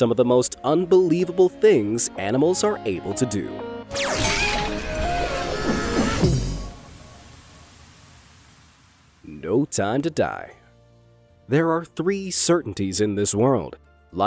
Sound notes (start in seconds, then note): 3.8 logo theme music; 4.2 character screams